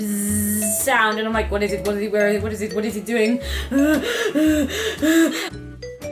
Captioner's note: breathes loudly and rapidly with fear